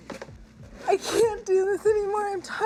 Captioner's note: sobbing